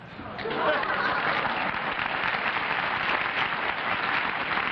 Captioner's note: laughter, applause